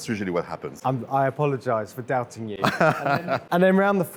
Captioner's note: laughs